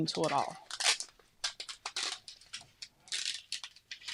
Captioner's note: sheet cracking